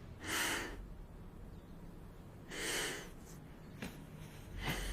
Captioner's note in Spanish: Suspiros